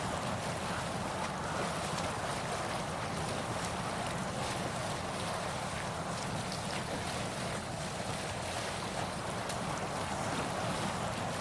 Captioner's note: sails billowing